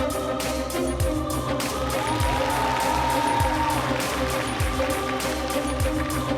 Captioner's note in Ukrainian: оплески